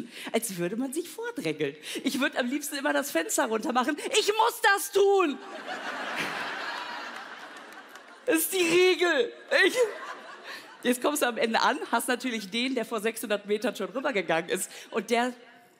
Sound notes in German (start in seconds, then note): 6.0 Lachen; 9.3 schluchzt